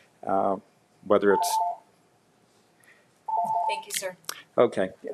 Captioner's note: timer ringing